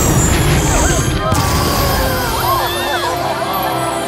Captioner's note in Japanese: 観客たちの驚く声